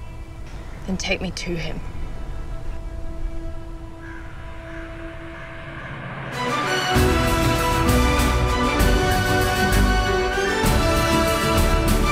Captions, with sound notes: - Then take me to him. (bird caws) (adventurous music)